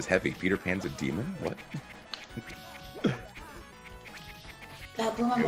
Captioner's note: laugh